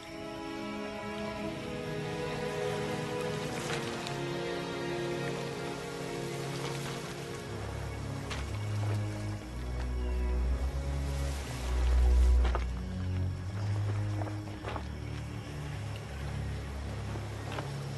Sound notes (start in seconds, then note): 9.8 ocean splashing; 15.0 birds tweeting